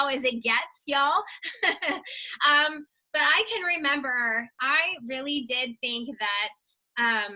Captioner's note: laughs